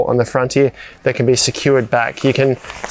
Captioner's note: fabric crumpling